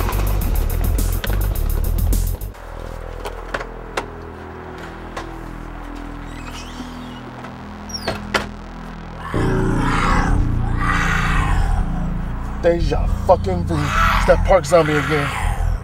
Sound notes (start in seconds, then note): 2.7 ominous music; 9.2 Adriel growls